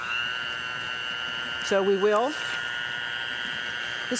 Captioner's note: mixer whirring